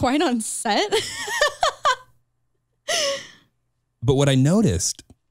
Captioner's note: chuckles